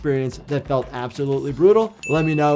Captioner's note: bell dinging